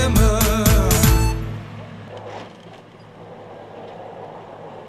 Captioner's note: delimber sounds